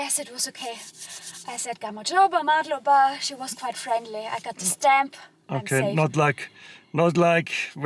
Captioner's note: in Georgian